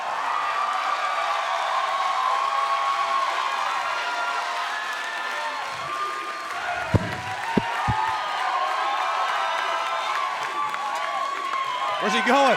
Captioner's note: cheers and applause